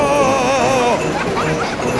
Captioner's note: screaming; children laughing